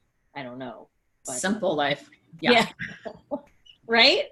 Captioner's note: laughs